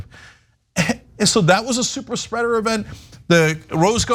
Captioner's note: cough